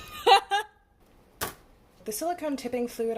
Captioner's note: bones clunk onto table